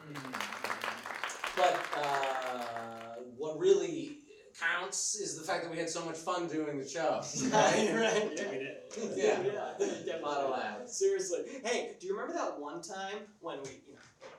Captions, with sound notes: (claps) But what really counts is the fact that we had so much fun doing the show. (laughs) - Yeah. - Lot of laughs. - Seriously, hey, do you remember that one time when we...